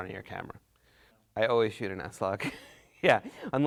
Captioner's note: laughs